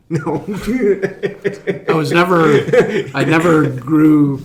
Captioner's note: laughing